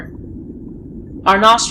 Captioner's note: breaching water and current